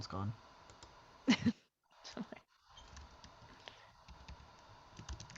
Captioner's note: chuckling